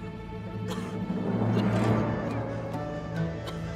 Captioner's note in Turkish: Öksürük sesleri